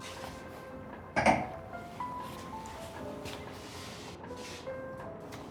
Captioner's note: glasses thud lightly